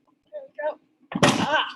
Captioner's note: clunk